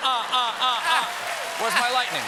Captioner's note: applause